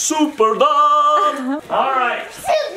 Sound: person laughing

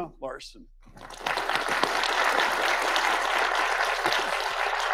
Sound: audience applauding

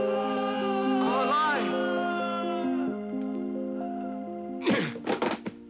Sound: man screaming; man screaming; man grunts

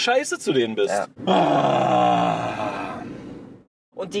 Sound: moans

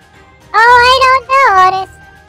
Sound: sarcastically

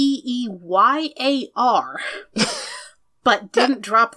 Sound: laughs

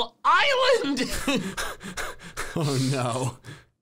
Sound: laughing

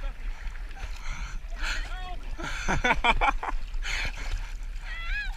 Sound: laughing

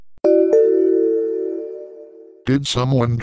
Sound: "Pollux" Notification Ringtone

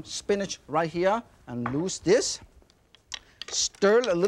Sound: bowl thuds softly; sticks clicking

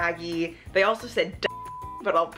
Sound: beep

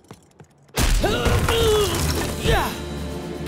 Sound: grunting

